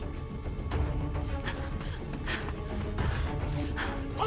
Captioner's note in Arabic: خطوات تجري، تلهث